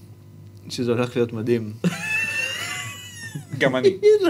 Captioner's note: snickers